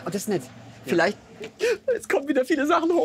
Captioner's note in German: schluchzt